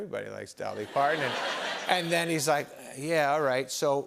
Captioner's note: laughter